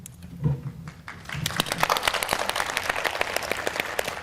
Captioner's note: applause